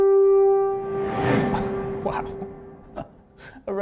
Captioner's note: memory image whooshes; chuckles